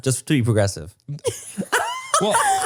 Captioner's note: laughs